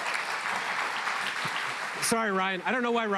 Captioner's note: applause